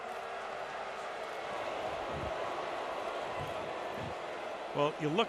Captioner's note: booing